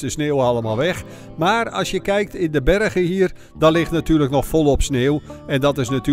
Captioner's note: voiceover